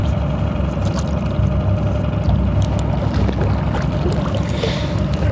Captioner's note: water splashing